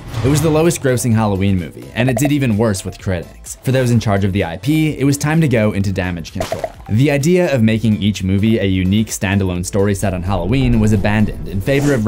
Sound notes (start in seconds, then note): 6.4 bubbles popping